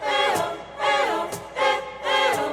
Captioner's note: chanting